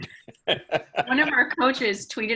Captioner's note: chuckling